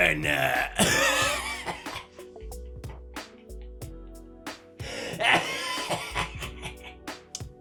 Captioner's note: pewds wheeze-laughs while coughing